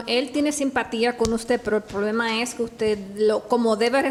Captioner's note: speaks Spanish